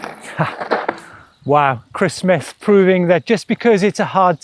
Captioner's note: gasps